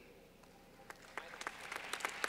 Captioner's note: clapping